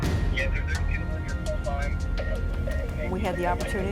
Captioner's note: radio chatter